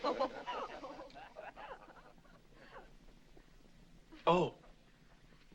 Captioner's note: laughter continues